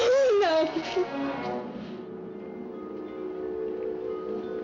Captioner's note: gasps, Sobs